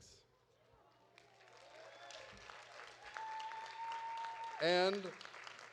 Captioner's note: audience applauding